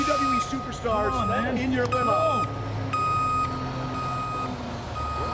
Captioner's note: truck beeping